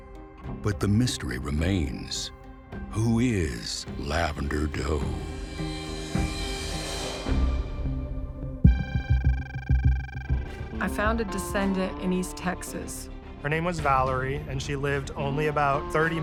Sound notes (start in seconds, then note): 5.2 mysterious music; 8.6 digital beeping